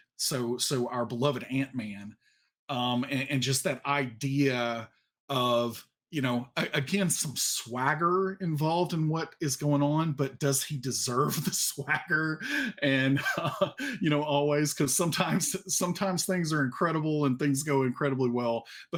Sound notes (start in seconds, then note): 12.4 laughs